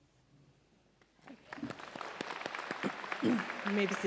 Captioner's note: audience applauds